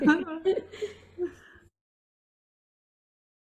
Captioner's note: laughing